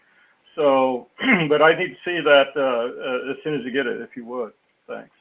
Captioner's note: cough